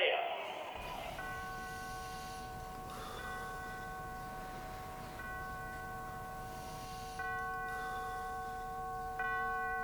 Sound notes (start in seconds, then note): 1.6 funerary bells